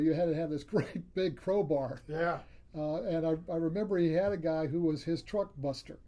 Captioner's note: laughs